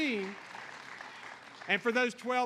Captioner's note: applause